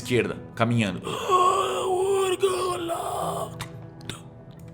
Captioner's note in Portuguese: Grunhido